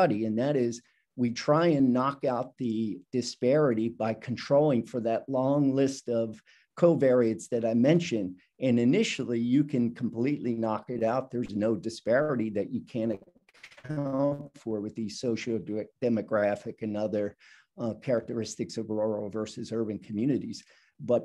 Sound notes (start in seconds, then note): 13.0 audio blurs